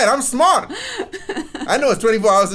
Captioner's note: laughs